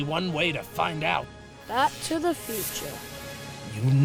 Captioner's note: wearily